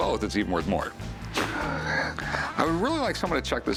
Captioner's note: laughs